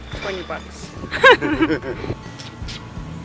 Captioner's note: laughs